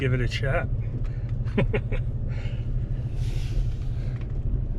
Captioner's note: chuckles